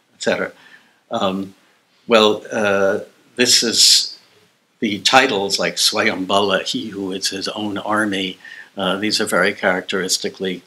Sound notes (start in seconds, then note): 4.7 non-english